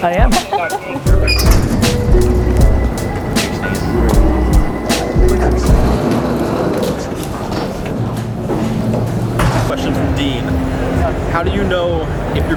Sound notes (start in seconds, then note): 0.0 piano music; 6.3 electronic humming